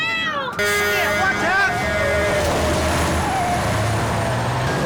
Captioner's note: horn blares